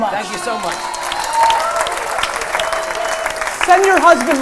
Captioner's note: cheers and applause